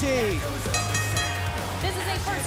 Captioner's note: bell ringing